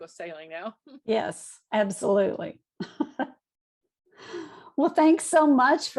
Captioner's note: laughs